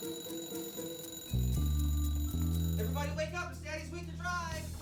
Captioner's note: alarm clock ringing